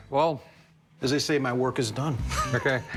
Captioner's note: laughs